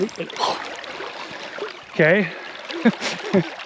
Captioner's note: rod whipping